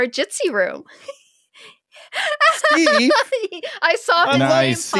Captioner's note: laughing